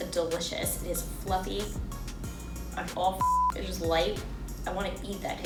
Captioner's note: beep